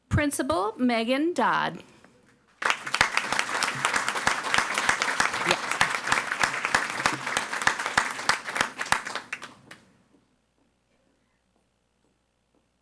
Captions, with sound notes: Principal, Megan Dodd. (audience applauding)